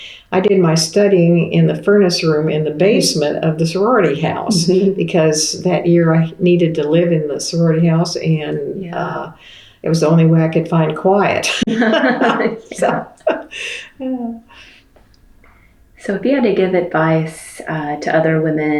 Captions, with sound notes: I did my studying in the furnace room in the basement of the sorority house because that year I needed to live in the sorority house and it was the only way I could find quiet. (Laughter) If you had to give advice to other women